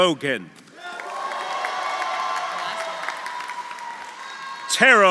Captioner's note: audience applauding; audience cheering